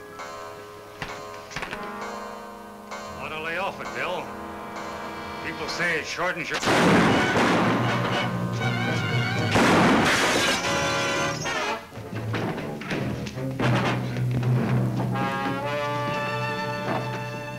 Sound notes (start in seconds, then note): 1.7 clock chimes; 6.5 speaker cut off by gun banging; 7.4 exciting music; 7.4 gun bangs